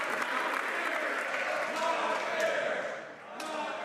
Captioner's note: some Applause